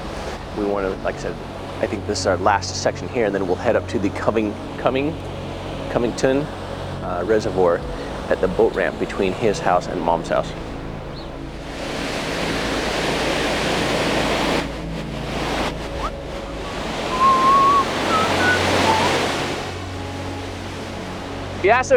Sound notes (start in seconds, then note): 11.4 high intensity music; 11.4 water rushing; 17.0 whistling; 20.0 high intensity music